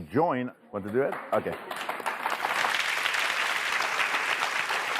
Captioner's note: audience claps